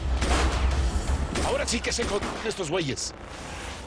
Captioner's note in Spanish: Disparos